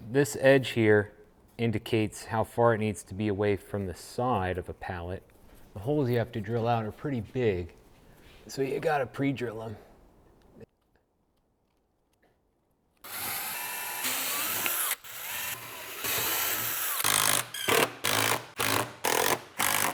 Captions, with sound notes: This edge here indicates how far it needs to be away from the side of a pallet. The holes you have to drill out are pretty big, so you gotta pre-drill them. [buzzing]